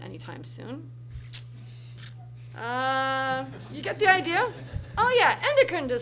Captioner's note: laughter from crowd